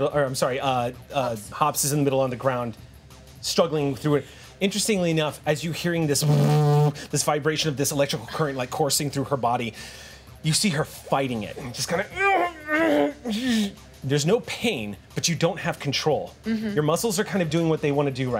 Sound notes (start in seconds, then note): 4.6 imitates electricity humming